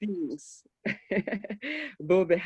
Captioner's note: laughs